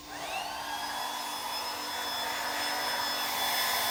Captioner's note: hair dryer blowing